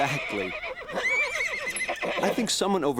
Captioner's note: neigh!